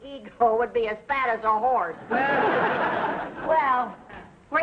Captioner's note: audience laughing